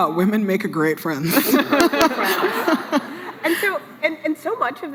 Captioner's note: laughs